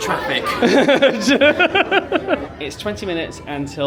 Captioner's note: laughs